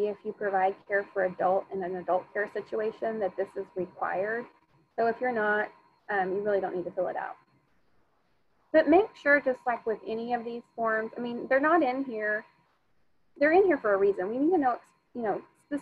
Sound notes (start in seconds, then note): none